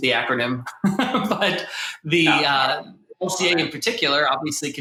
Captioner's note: laughs